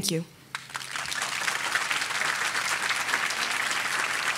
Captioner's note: audience applauding